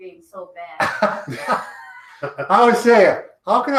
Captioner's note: both laugh